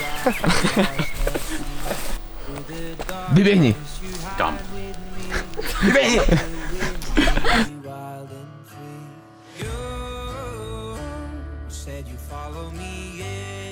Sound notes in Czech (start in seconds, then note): 0.4 Smích; 5.8 Smích